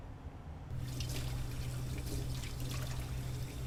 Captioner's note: water running